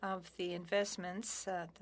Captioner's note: speaking french